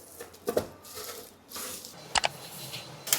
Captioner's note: crash warning